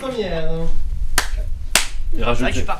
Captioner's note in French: Clap Clap